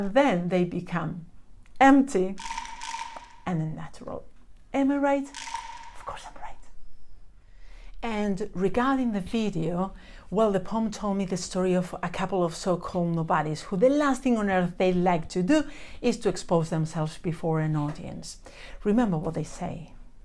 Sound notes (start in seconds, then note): 2.4 frog croaks